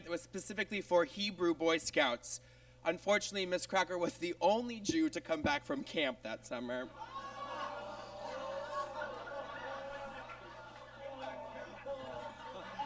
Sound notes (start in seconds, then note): 7.0 audience groans